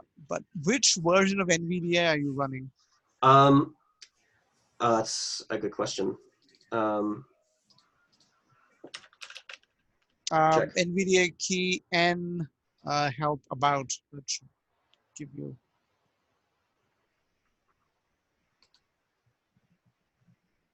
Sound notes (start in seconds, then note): 8.8 typing; 17.5 silence